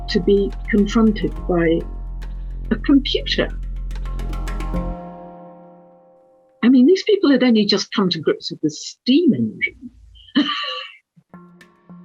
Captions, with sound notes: to be confronted by, a computer! I mean, these people had only just come to grips with the steam engine (laughs).